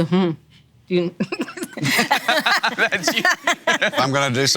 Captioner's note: everyone laughing